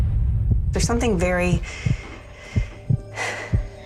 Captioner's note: music stabs; exhales